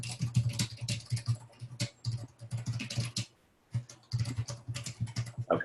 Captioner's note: typing